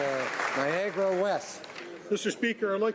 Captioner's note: applause